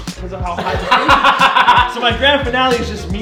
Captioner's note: laughing